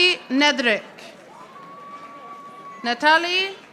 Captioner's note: audience applauding